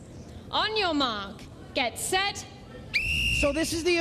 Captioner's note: whistle blows